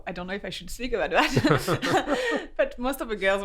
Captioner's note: laughs